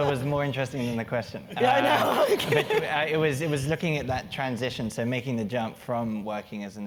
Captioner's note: laugh